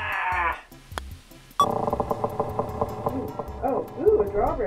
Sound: beep, drawbridge creaking

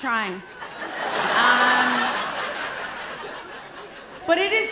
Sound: laughter

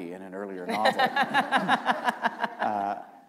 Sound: laughter

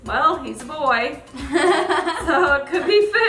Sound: laughing

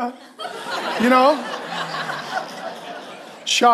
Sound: congregation roars

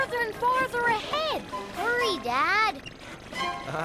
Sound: backfiring

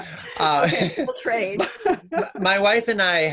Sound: laughing

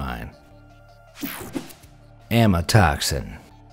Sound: image whooshing

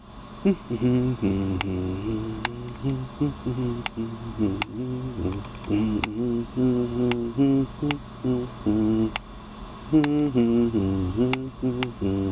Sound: humming

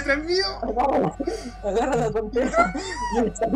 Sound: asthmathic laughing

